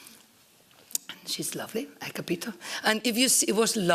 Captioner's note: italian